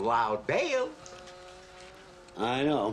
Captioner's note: buzzing